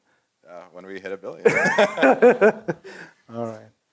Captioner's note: laugh